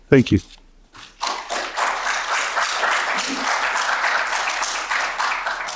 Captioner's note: audience applauds